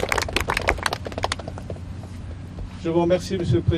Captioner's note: applause